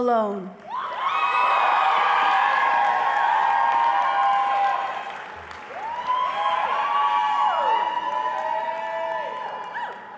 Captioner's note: crowd cheering and applause